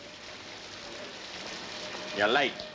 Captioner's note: rain splashing